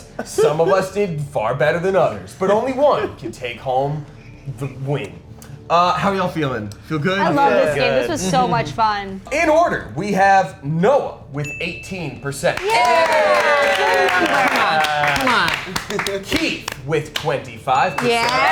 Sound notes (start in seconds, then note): 12.6 contestants cheering; 18.0 contestants cheering